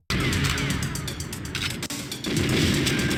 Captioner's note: guns firing; tense music